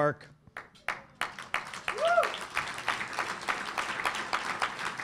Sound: audience applauding

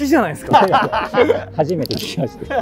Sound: laughing

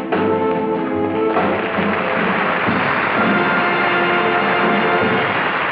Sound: audience applauding

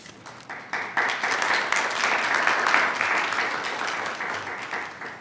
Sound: attendees clapping

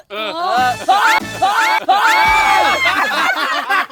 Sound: screams; laughs

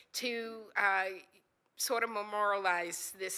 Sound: none

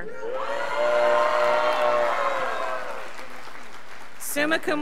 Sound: scholars applauding

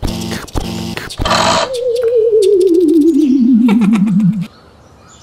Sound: pounding footsteps; powering down; click

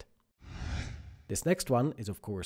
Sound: screen whooshes

